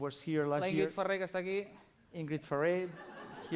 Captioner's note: non-english speech